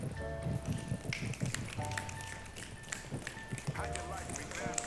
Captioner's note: snapping